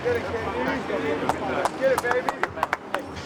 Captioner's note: clapping